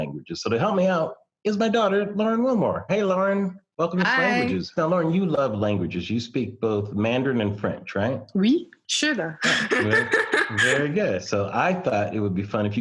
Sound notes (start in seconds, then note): 8.2 speaks French and Mandarin; 9.4 laughs